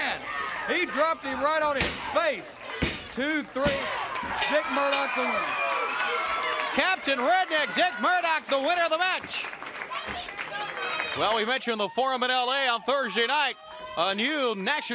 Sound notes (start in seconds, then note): 8.9 crowd cheering